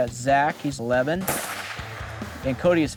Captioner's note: gunshot blasting